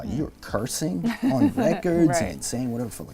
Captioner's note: laughs